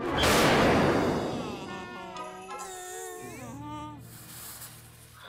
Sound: groaning sadly; sizzling

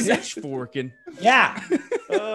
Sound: laugh

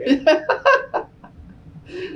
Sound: laughs

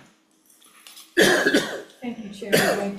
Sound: member coughs

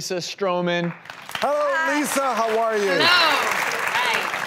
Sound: applause

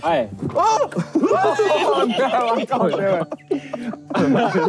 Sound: group laughing

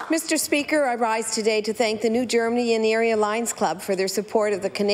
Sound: applause

